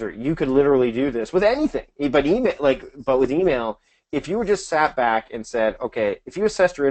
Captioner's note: none